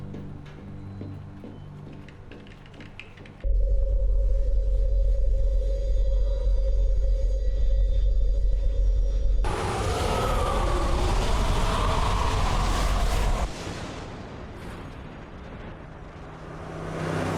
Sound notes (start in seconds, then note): 9.4 wind whooshing